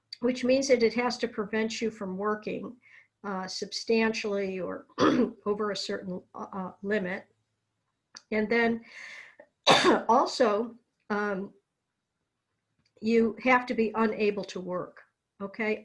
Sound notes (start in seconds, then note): 9.6 coughs